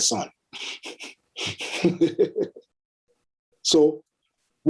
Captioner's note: chuckles